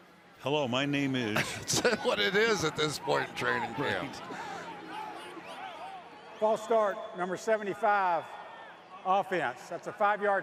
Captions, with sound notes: Hello, my name is. [laughs] What it is at this point in training camp. False start, number 75, offense.